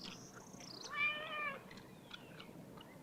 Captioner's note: meow